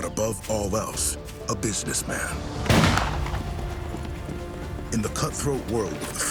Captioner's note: fires rifle